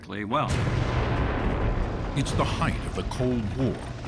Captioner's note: explosion